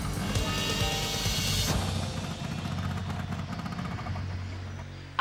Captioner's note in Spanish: el scooter chisporrotea, se detiene